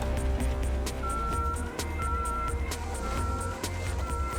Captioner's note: beeping